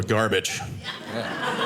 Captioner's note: audience laughing